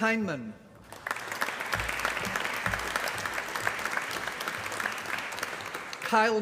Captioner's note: applause